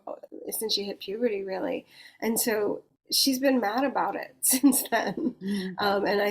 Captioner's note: chuckles